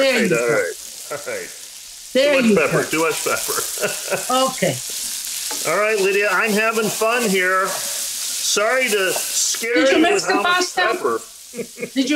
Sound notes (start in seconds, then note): 2.3 laughs; 4.8 food sizzling sound